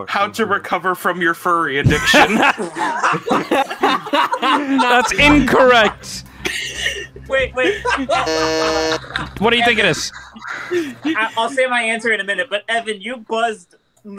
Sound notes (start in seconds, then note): 3.6 group laughter; 7.9 buzzes